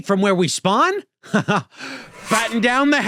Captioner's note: chuckles